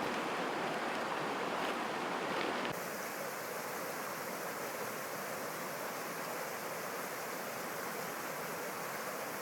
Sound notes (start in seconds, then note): 2.9 water lapping